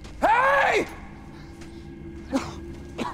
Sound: coughing

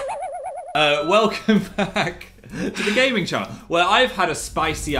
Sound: laughs

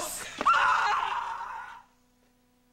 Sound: high-pitched, barbaric shouting

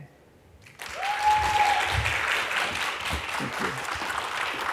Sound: applause

